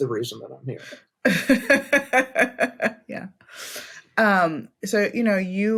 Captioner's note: laughs